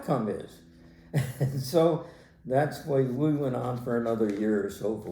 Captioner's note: laughs